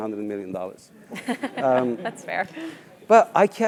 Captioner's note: laugh